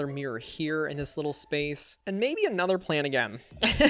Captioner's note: laughs